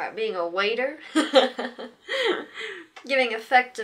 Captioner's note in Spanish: Se ríe de su propio chiste